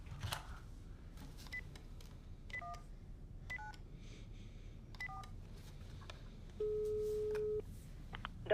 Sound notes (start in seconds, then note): 1.6 phone beeping; 6.5 tone beeping